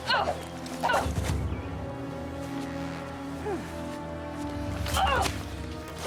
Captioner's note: grunting